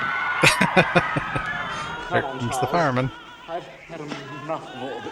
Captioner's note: laughing